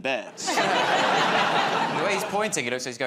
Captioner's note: laughter